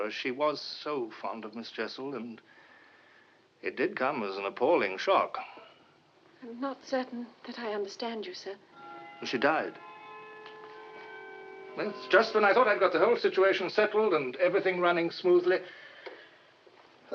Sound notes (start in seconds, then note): 8.7 clock chiming